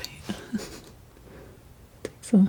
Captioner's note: laughing